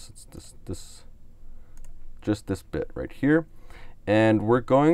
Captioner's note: clicks on mouse